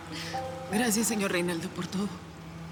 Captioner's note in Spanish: Sollozos